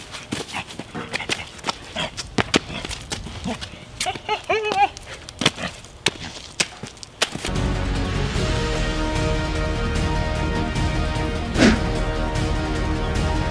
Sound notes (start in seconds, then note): 4.0 monster chuckles; 7.4 dramatic music continues